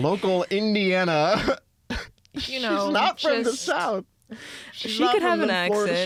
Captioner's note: laughing; laughs